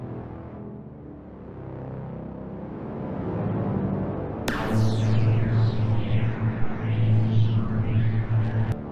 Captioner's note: laser noises